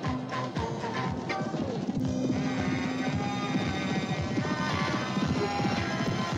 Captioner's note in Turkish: at sesleri̇; hareketli̇ müzi̇k başlar